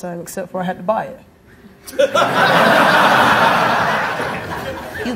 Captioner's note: audience laughing